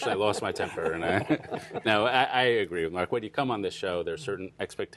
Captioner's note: laughter